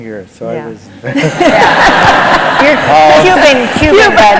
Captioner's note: laughter